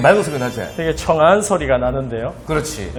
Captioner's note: A clear ding resonates